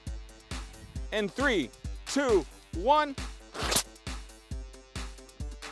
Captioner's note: bottle hissing